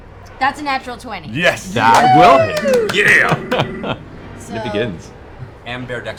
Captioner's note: laughs